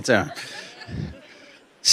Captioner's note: laughter